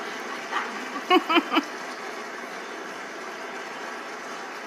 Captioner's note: laughing